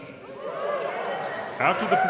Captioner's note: audience cheering; audience clapping